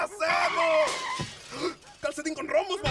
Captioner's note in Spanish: Sonido de Choque